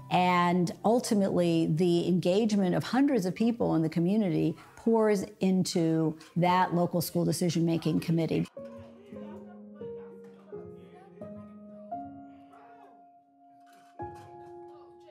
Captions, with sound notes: And ultimately, the engagement of hundreds of people in the community pours into that local school decision-making committee. (people chattering)